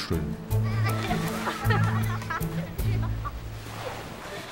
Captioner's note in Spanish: niños riendo